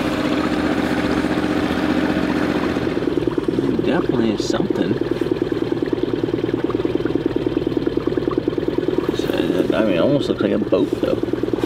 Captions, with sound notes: (engine vibrating) we definitely at something. (engine vibrating) I mean it almost looks like a boat tub.